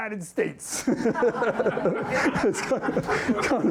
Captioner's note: laughter